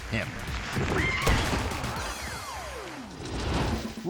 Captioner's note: audience screaming; air whoosh